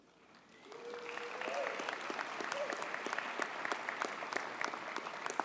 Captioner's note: audience cheers and applauds